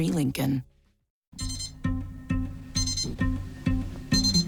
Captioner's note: alalarmrm b beeeeps